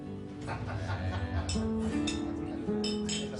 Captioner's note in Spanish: Risas